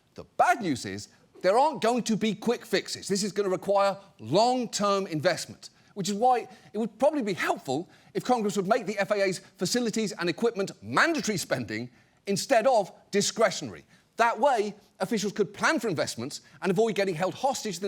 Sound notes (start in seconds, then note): none